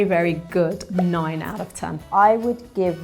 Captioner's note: number pops